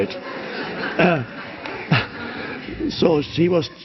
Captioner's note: audience laughs